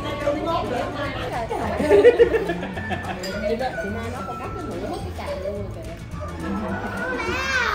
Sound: laughter

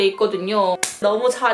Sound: clap

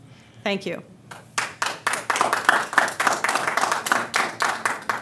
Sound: audience clapping

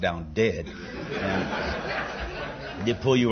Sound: laughter

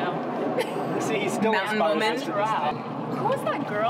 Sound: chattering; laughing

